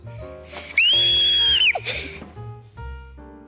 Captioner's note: scream